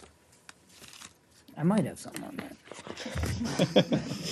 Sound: laughter

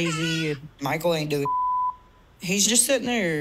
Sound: beep

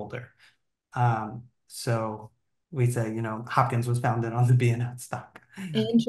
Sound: laughing

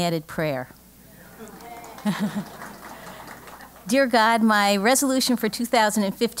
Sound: laugh; applause

